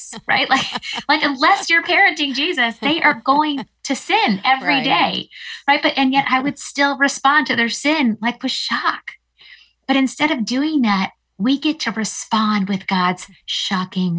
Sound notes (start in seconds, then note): 4.0 laughing